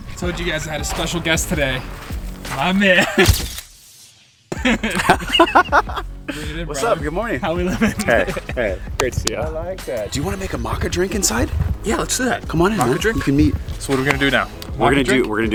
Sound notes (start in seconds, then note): 3.4 camera click; 4.5 laughs